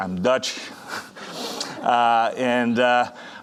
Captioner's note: audience chuckling